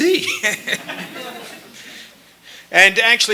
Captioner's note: laughter